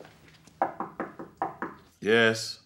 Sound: knuckles rapping

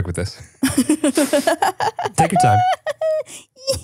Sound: laughing

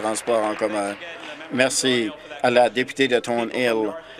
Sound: applause

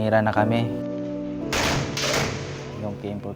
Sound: machine gunshots fired

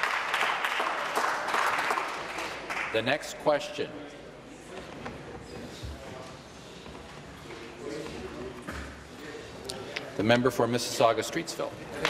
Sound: applause

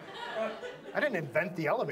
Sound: audience laughs

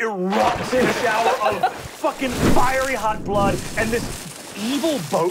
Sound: spraying

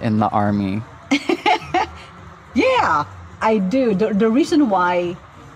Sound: laughs

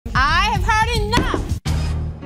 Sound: gavel Bangs

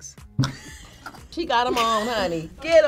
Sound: both laugh

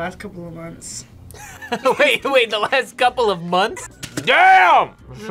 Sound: laughs

